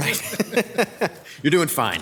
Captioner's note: laughing